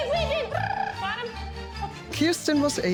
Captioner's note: trills